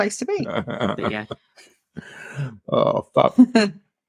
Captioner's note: laughing